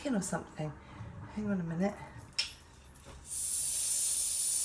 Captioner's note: air hissing